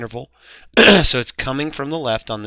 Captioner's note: clears Throat